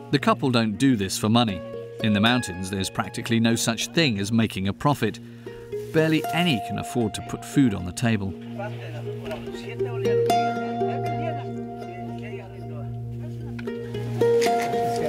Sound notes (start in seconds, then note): 10.0 people chattering